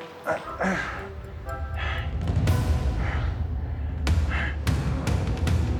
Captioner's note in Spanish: Quejidos